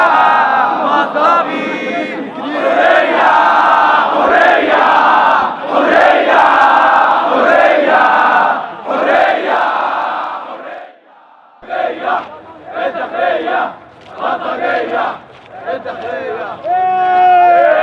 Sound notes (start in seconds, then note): 0.0 chants; 11.0 chants